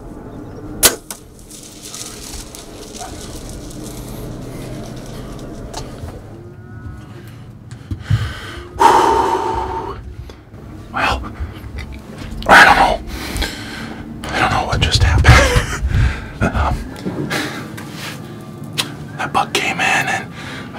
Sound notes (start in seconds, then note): 0.8 sound of bowshot; 1.2 sound of running